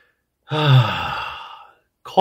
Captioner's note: sigh